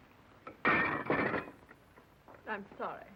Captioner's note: dishes banging